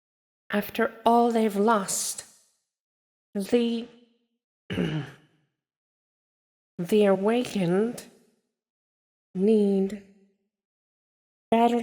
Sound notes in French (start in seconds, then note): 4.7 se racle la gorge, mal à l'aise